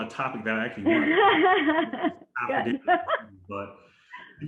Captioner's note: laughter drowns out speaker